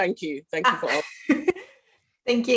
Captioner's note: laughs